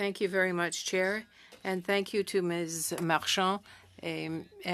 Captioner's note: speaking French